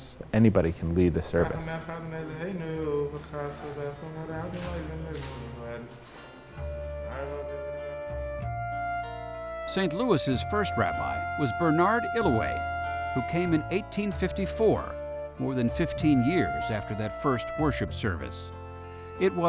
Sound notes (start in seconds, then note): 2.0 speaking in foreign language; 8.1 slow music